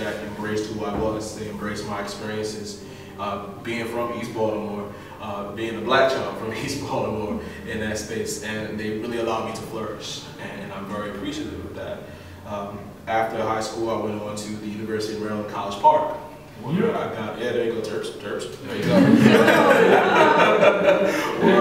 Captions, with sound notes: that embraced who I was. They embraced my experiences being from east Baltimore, being a black child from east Baltimore in that space and they really allowed me to flourish and I'm very appreciative of that. After high school I went on to the University of Maryland College Park. (whooping from Class) There you go. Terps! Terps! (laughing)